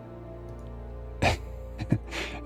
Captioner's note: chuckles